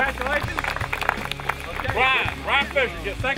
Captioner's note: applause